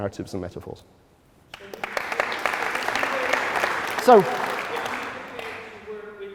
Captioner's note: applause